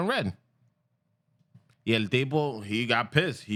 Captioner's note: speaking Spanish